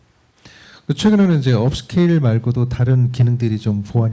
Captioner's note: speaking korean